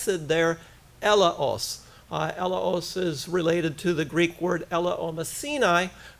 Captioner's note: foreign language